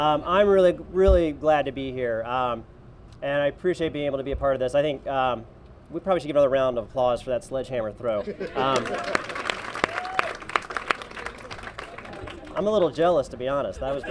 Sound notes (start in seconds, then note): 8.5 applause; 13.7 laughter